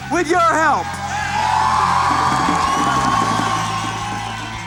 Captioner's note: cheering and applause